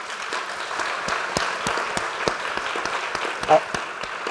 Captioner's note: applause